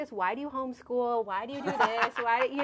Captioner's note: laughs